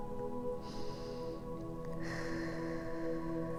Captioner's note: tranquil music; inhales deeply; exhales deeply